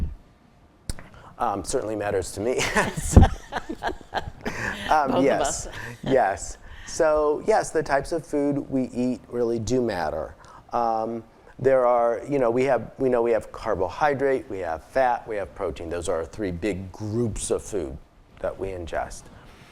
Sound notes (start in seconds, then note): 2.6 laughing